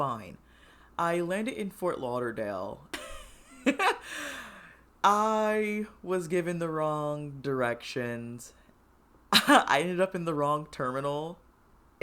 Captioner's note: laughs